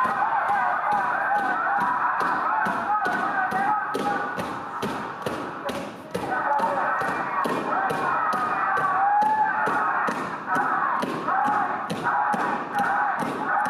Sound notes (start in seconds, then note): 1.0 dancers feet stomping